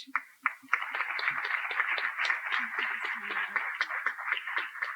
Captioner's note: applause